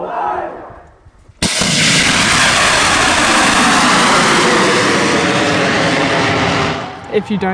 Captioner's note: rocket launch